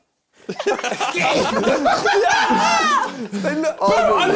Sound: both laughing

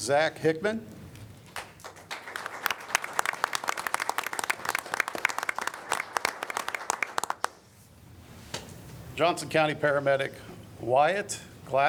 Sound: applause

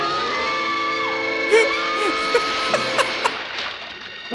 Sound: laughs

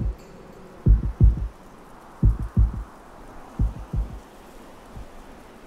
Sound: wind whistling softly

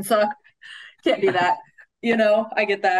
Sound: laughing

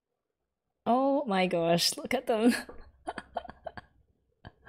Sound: laughs

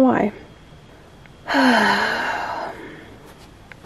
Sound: beleaguered sigh

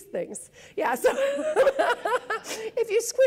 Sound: laughs

